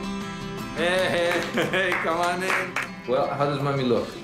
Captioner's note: laughs